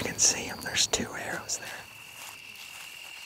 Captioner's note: whispering